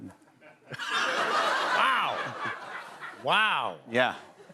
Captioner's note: light laughter